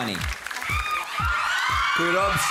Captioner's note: audience screaming